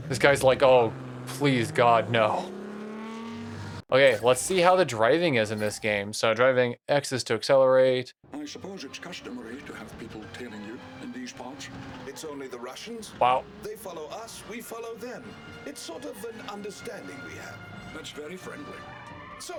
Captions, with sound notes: This guy's like, "Oh, please God, no." (engine revs) Okay, let's see how the driving is in this game. So, driving X is to accelerate. Wow.